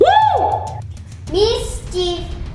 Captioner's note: shouts